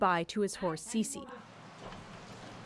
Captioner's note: speaking French